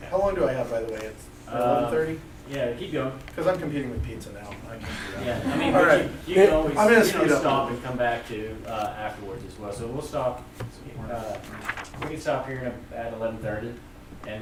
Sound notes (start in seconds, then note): 0.0 voiceover; 3.5 voiceover; 4.8 laughs; 6.3 voiceover